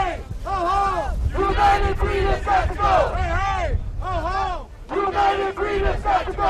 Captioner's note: chanting